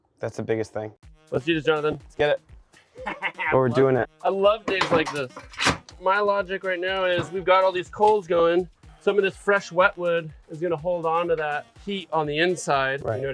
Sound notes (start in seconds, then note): 2.8 laughs